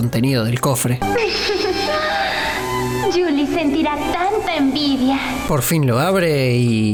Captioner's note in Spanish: riendo